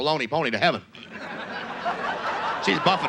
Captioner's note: audience laughs